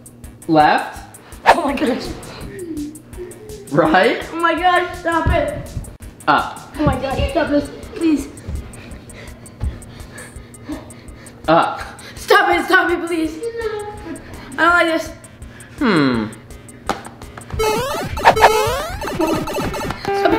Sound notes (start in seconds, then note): 1.4 air whistling; 8.4 pants; 17.6 numerous electronic beepings